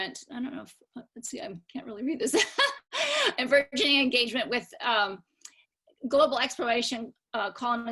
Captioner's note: laughter